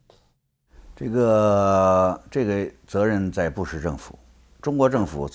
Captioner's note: speaks in foreign language